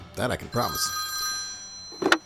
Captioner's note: phone ringing